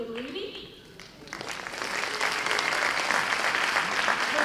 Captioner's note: applause